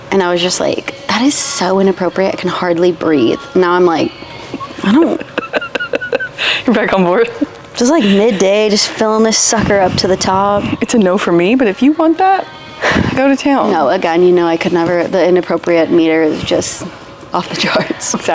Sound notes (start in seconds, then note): 4.4 laughs